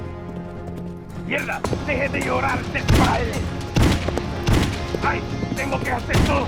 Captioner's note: outlaw speaking in Spanish